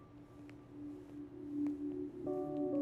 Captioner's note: Footsteps approaching